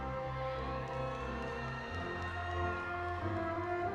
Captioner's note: audience cheering